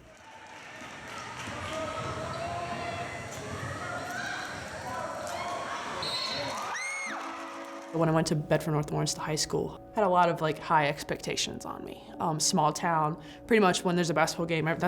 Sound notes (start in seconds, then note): 0.0 audience cheering and clapping; 6.0 whistle blows; 7.0 audience cheers